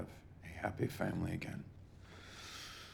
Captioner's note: inhales deeply